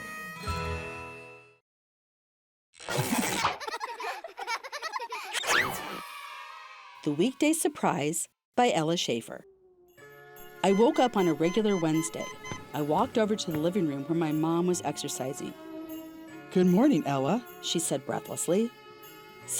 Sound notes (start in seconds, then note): 3.4 children laughing; 5.8 children cheering